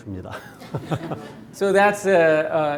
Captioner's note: audience laughing